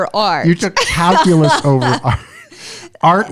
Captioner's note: laughter